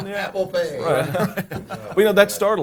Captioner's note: group laughs